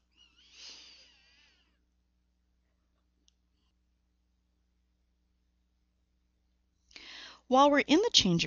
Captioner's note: pause